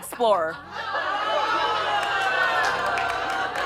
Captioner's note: laughter